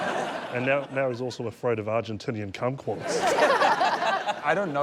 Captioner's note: laughter